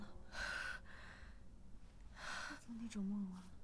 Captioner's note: breathes heavily